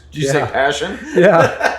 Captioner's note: laughs